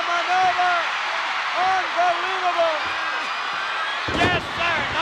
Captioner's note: applause